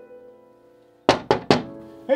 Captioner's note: knock on the door